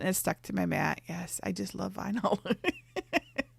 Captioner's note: laughs